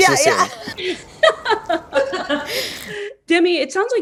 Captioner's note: people laughing